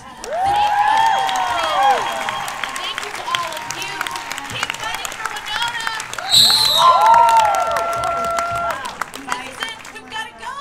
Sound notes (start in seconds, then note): 0.1 cheers and applause; 6.0 cheers and applause; 6.0 loud audio feedback screech